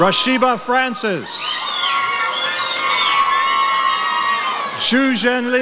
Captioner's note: audience cheers